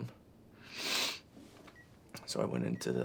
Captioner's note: Ashley snivels